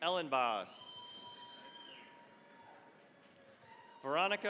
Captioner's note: cheering, applause